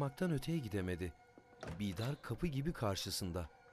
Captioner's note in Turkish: Kapı açılma sesi